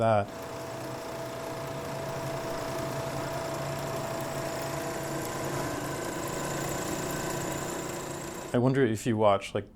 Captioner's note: projector whirling